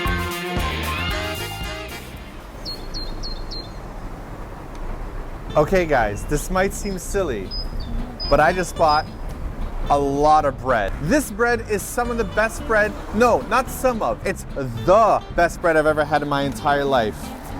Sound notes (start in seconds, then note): 3.4 birds chirp